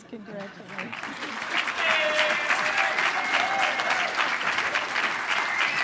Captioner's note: applause